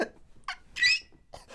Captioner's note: squeak